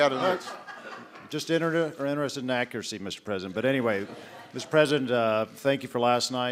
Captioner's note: laughter